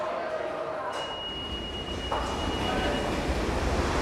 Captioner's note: beeping